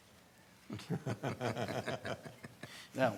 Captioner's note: laughs